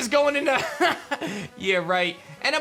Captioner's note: chuckles